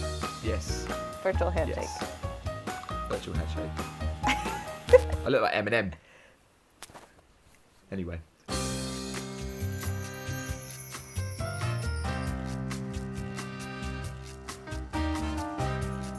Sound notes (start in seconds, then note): 4.3 laughs; 8.5 upbeat music